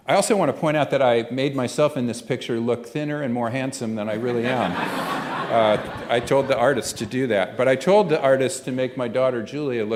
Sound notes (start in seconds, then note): 4.2 laughter